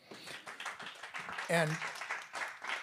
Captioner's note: audience applauding